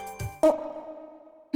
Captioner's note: alert